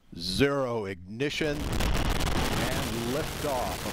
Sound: sound of rocket engines

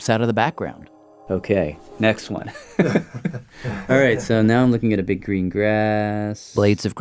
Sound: laughs

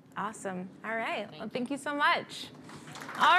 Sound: applause

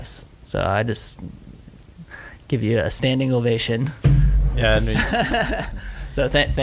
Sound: laughs

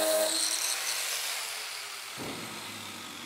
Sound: machine stops

